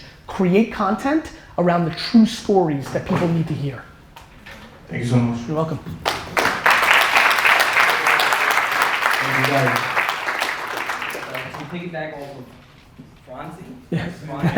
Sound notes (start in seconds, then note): 6.0 audience applause